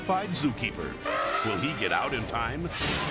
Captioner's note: elephant trumpeting; air whooshes